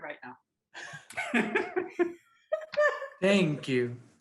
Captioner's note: all laughing